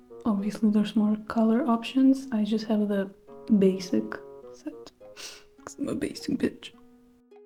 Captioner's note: sniff